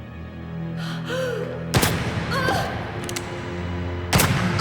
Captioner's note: gunshots